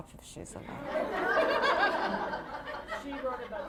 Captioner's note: laughter